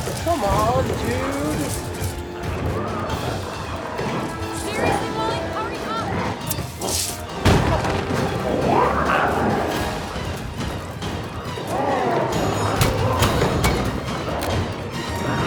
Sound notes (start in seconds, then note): 7.6 glowzies growling; 11.7 dramatic music continues